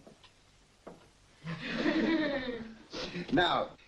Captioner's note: audience chuckles